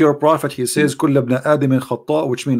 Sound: berbahasa arabik

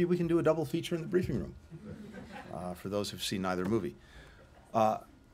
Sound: laughter

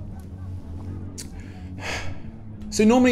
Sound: sigh

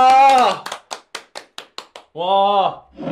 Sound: clap clap clap

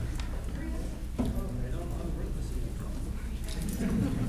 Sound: crowd chattering

